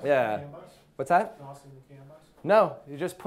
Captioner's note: murmurs